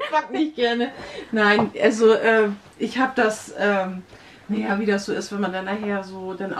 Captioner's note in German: wird gelacht